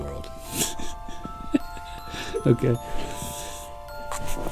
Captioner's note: laughing